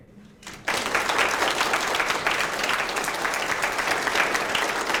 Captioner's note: audience applauds